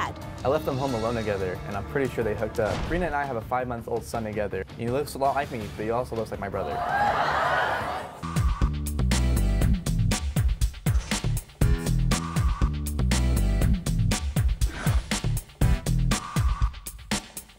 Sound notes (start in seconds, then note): 6.7 audience gasps